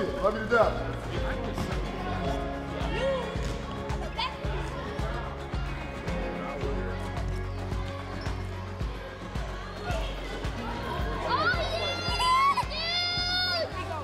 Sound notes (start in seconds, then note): 0.3 inspiring music plays; 9.3 kids cheering